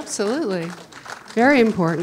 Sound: audience clapping

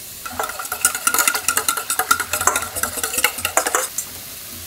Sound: bowl whirring

